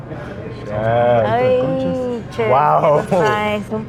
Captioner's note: speak in Spanish